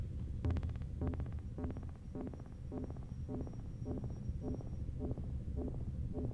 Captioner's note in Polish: Ciągłe, krótkie, miarowe, elektroniczne łopotanie